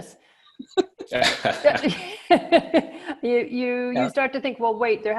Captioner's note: laughs